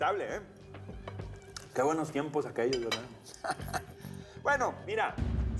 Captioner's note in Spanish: risas